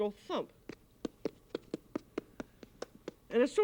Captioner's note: fingers thumping